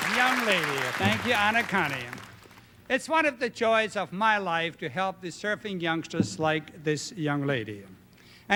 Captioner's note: applause